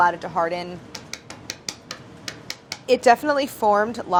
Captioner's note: tapping